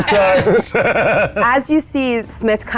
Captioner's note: laughing